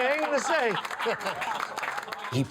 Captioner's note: people laughs